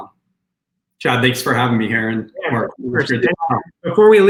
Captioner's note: sound distorts